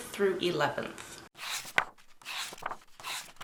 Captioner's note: pages turning